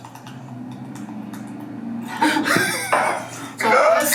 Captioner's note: bottle spurting